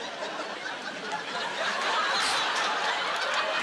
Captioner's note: laughing